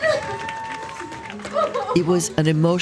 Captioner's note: sobbing